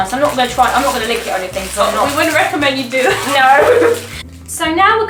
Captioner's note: both laugh